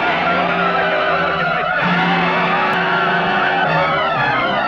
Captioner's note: men shouting